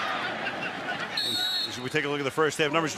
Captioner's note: whistle